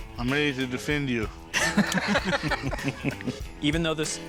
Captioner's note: all laugh